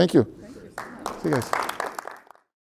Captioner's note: attendees applauding